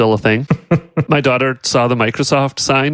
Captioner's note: laughs